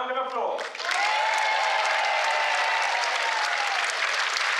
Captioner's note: applause